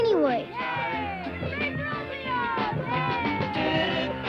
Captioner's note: kids cheering